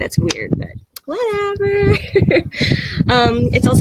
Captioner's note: laughs